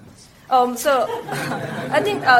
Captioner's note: scattered laughter